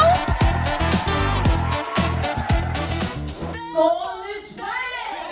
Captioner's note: cheers